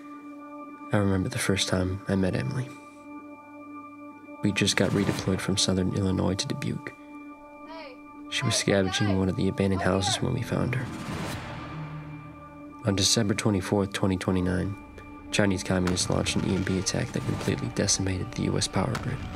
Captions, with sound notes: I remember the first time I met Emily. We just got redeployed from southern Illinois to Dubuque. [Emily yelling] Hey, hey guys! Up here! She was scavenging in one of the abandoned houses when we found her. On December 24th, 2029. Chinese communists launched an EMP attack that completely decimated the US power grid